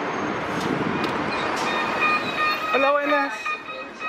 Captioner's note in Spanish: sonido de apertura de puertas